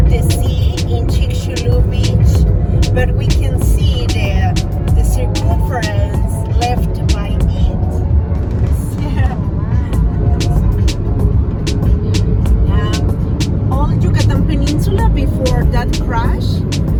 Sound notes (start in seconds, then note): 1.7 street sounds